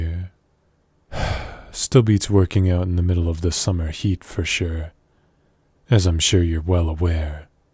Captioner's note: sigh